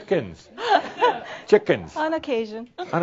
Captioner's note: some chuckles